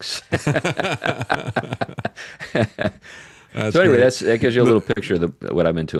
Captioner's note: laughing